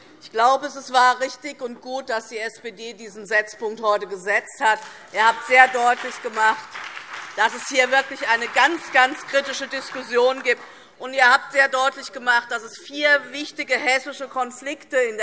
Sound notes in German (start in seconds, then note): 10.5 Beifall SPD